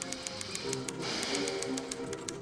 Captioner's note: sighs